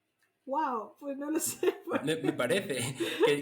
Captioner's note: laughs